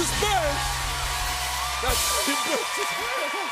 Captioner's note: laughing